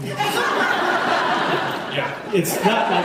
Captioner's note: laughs